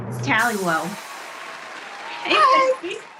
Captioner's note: applause